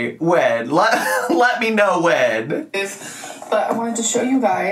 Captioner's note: giggling